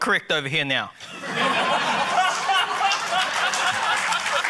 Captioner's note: laughter